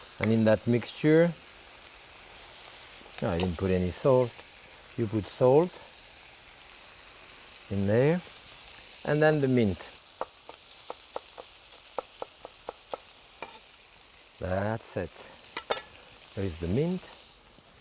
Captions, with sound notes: And in that mixture, oh, I didn't put any salt. You put salt in there. (pan sizzling) And then, the mint. (knife thudding) That's it. (knife clinking) There is the mint.